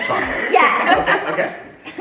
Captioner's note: family laughs